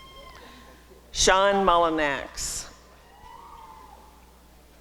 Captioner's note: applause and cheering